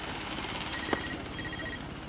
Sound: ringing of cell phone

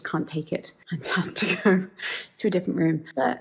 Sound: laughs

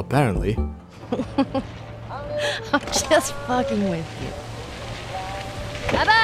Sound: laughing

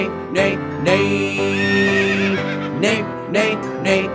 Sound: horse neighing

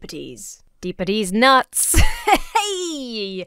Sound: laughs confidently

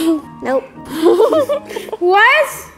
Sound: laughter

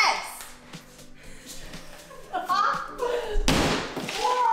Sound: chuckles; wall breaks

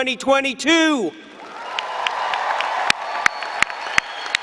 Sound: applause and cheering

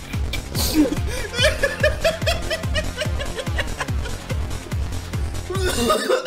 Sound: laughter

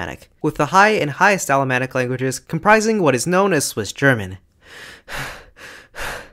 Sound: pant pant pant

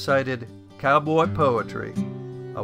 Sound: southern accent

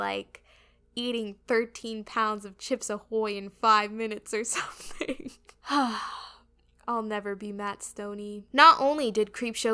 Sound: sigh

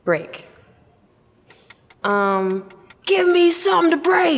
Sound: timer ticks

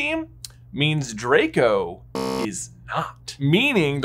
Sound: buzzer buzzing

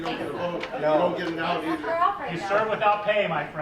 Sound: murmuring

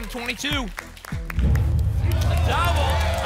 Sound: rumbling sounds

